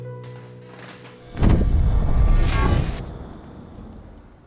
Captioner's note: transdimensional teleportation sound